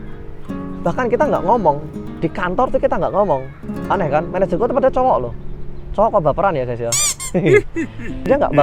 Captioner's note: chuckles